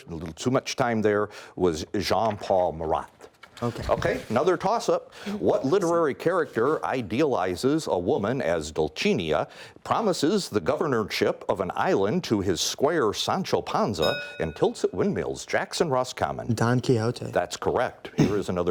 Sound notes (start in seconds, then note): 14.0 bell rings